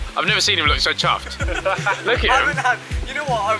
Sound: men laughing

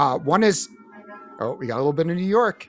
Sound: sirens and horn honking

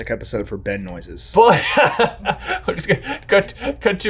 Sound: laughs

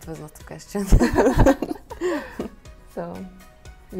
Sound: laughs

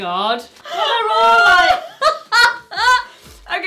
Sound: laughs

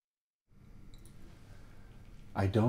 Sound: ears ringing

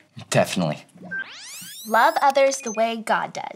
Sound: graphics squeal

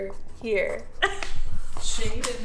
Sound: chuckles

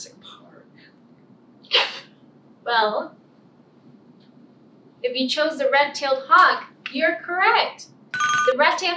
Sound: ringing bell

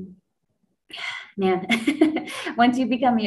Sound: laughs

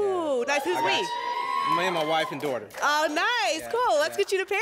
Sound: applause and cheering

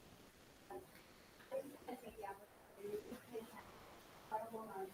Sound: speaking faintly off mic

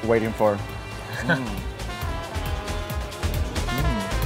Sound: laughs

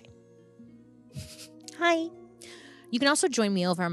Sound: giggles

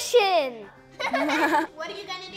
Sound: laughter

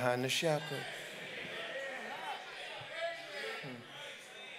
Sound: congregants call out

